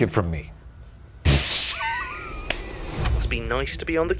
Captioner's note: tape recorder clicks; laughs